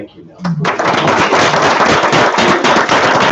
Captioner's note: applauding